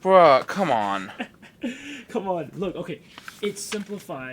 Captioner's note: Jake snickers